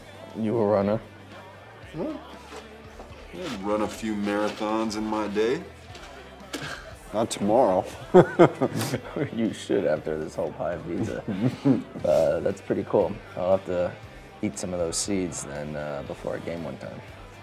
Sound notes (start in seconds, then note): 8.0 Drew laughs; 8.0 chuckles